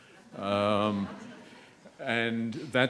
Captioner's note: audience laughs